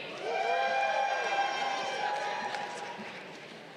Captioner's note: crowd cheering